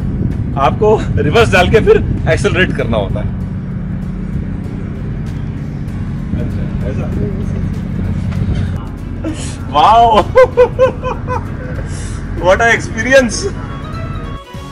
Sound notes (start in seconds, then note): 10.1 laughter